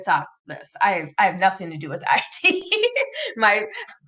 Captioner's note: laughs